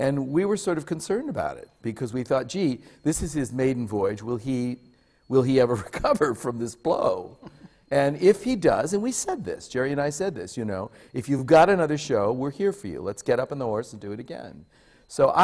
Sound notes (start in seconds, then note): 7.3 laughs